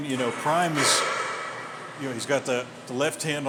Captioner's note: heavy weight clangs